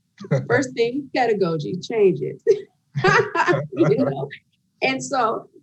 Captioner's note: laughs